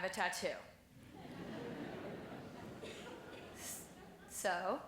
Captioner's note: laughing